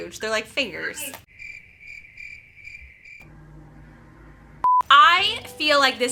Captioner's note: crickets chirping